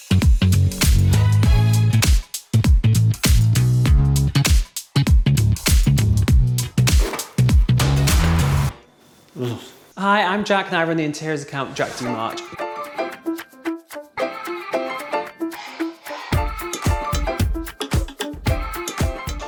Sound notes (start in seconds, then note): 5.3 upbeat jazzy music; 9.4 groans; 19.2 upbeat music